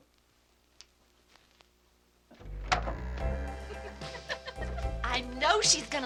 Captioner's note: record scratching